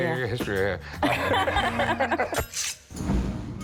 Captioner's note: both laugh